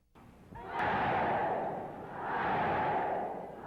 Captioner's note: cheers